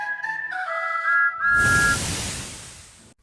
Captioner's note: thomas whistles